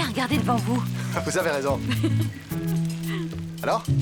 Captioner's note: laughter